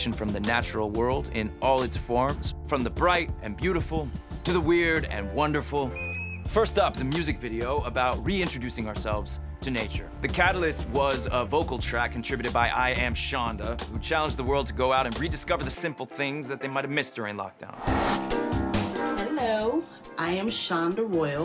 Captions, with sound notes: from the natural world in all its forms, from the bright and beautiful to the weird and wonderful. - ( chirps ) - First up's a music video about reintroducing ourselves to nature. The catalyst was a vocal track contributed by IAmShonda, who challenged the world to go out and rediscover the simple things that they might have missed during lockdown. Hello, I am Shonda Royal.